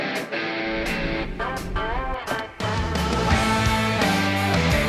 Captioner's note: upbeat metal music begins; motorboat humming